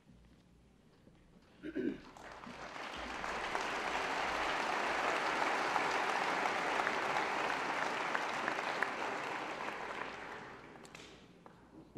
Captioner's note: applause